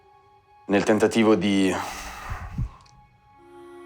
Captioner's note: sighs